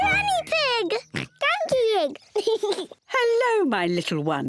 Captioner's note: giggles and oinks; oinks; laughs